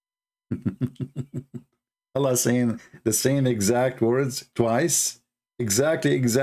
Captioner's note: Ketawa